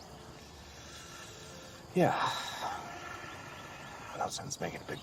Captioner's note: sighs